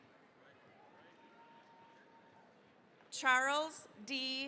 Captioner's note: cheering, applause